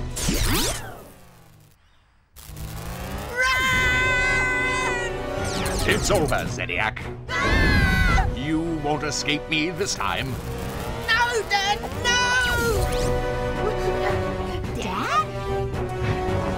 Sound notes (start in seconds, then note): 0.2 transporters whoosh; 2.4 laser whirs; 7.3 children yell; 10.3 laser buzzes